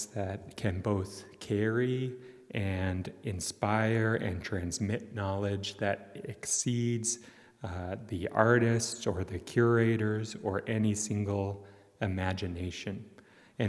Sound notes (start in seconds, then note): none